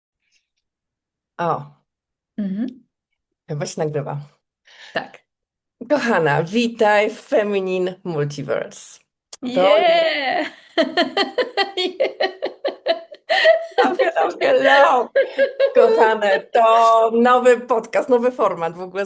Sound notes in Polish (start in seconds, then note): 10.3 śmiech; 11.1 wciągnięcie powietrza; 15.7 śmiech